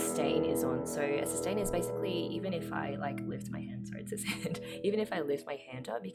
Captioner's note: laughs